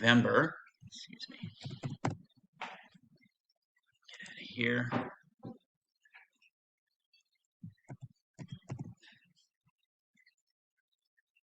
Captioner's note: mouse clicking